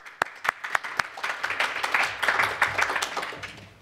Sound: applause

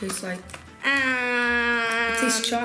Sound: groaning

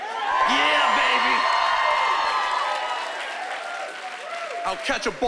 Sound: cheering and applause

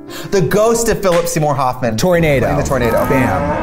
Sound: gasps

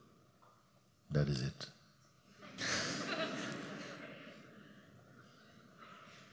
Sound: laughter

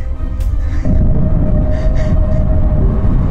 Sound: awful roar

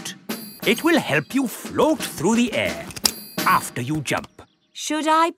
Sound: clicking

